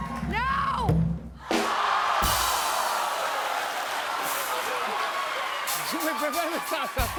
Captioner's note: audience exclaims